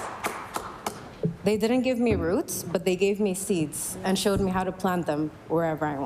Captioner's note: applause